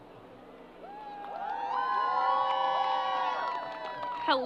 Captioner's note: crowd applause